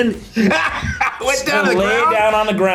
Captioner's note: laughs